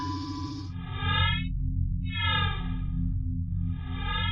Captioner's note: device pulses